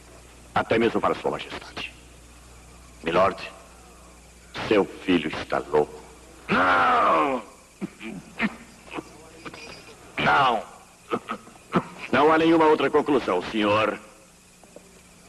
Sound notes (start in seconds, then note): 7.8 coughing and wheezing; 11.0 coughing